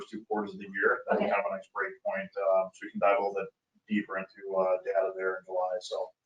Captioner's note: speaking faintly